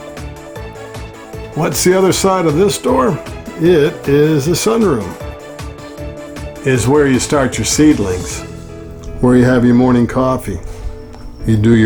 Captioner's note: door noise